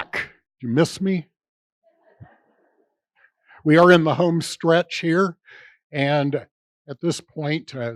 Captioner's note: laughter